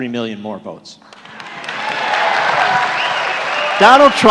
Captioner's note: applause, cheering